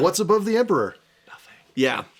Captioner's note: whispers